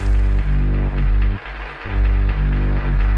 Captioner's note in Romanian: Aplauze